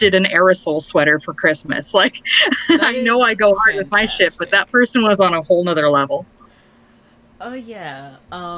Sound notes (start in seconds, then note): 2.0 laughs